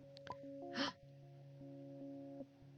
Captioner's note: gasp